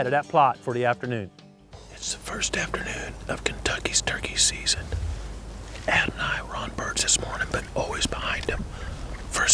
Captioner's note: whispering